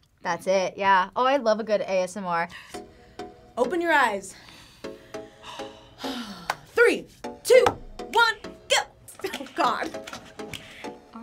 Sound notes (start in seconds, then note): 5.1 React sighs; 5.2 sighs; 10.1 laughs